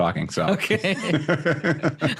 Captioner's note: laughing